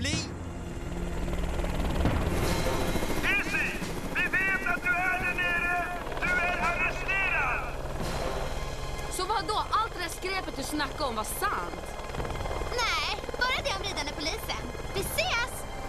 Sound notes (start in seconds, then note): 0.2 helicopter blades whirling; 3.2 on megaphone